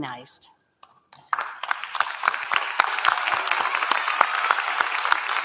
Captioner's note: applause